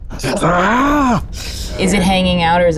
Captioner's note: yells